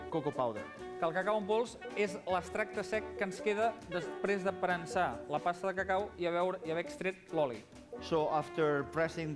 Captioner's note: non-english speech